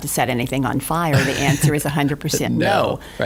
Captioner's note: laughing